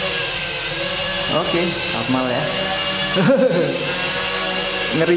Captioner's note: chuckle